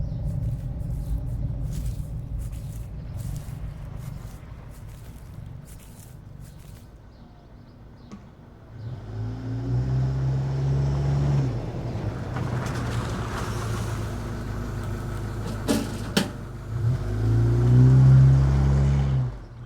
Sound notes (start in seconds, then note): 8.7 engine humming